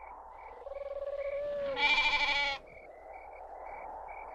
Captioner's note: wind whooshing; bird cooing